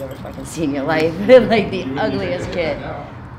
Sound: laughing

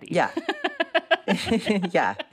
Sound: laughter

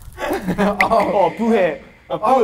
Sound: shocked

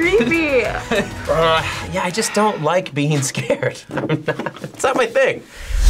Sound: laughs

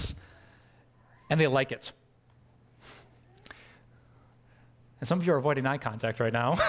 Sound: pastor: Laughter

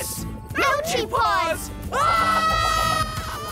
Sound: screaming

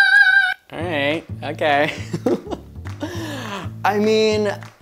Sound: laughs

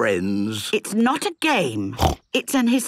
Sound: snorts

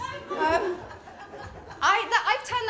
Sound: laughter

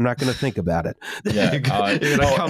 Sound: laughter

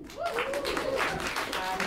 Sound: applause

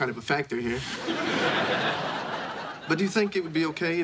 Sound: audience laughing

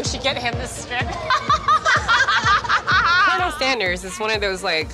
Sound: laughter

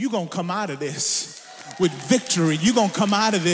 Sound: audience applauds

